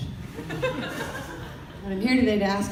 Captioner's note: audience laughter